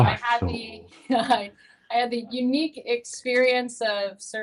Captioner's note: chuckles